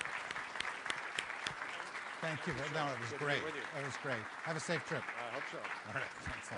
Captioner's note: applause